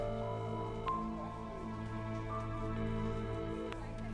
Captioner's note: mystical music; phone rings